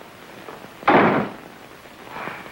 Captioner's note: door slams shut